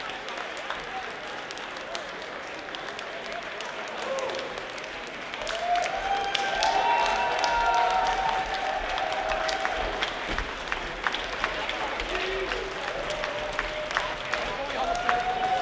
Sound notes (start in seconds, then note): 6.3 crowd cheers